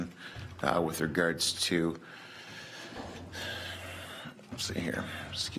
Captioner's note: sighs